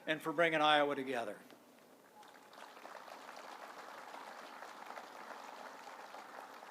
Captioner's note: applause